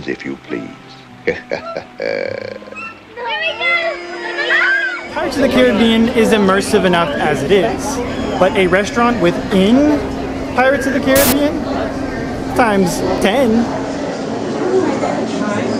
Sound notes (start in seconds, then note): 1.2 pirate chuckle; 3.2 happy screams; 14.8 chatter